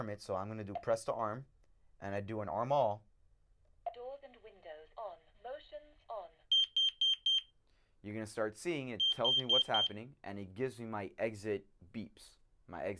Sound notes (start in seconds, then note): 6.5 alarm beep